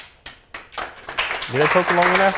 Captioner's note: applause